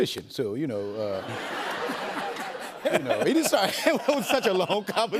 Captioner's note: laughter